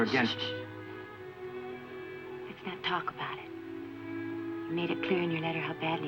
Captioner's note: hushes